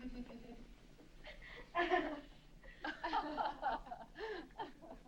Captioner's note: woman laughing